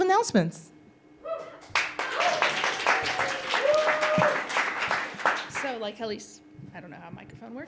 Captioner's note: applause